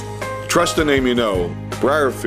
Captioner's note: voiceover